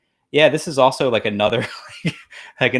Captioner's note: laughs